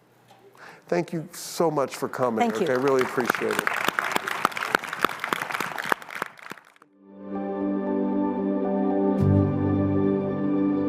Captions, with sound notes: Thank you so much for coming. - Thank you. - I really appreciate it. (audience applauds) (gentle music)